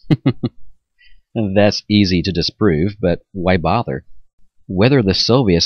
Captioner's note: chuckles